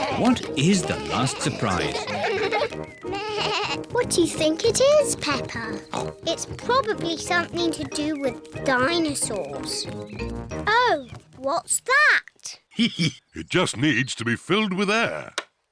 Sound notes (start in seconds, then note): 3.0 bleats; 5.7 oinks; 12.6 laughs